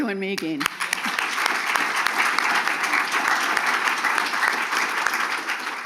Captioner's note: audience applauding